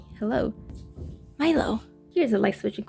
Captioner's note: door scratching